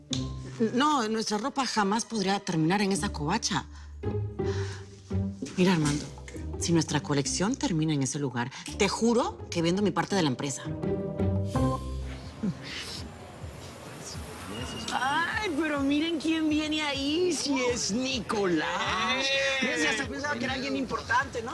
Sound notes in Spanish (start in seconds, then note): 18.6 Exclamaciones